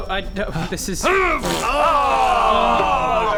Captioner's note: hrrghg; pfffpt